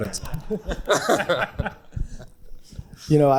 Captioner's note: all chuckle